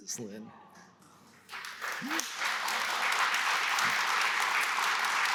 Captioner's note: applause